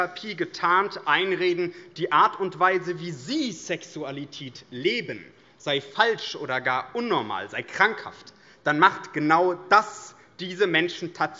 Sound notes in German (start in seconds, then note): none